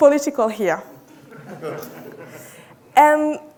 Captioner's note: audience laughing